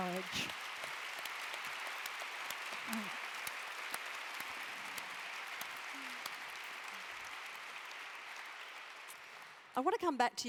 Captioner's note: applause